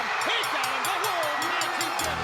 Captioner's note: bell ringing; crowd cheering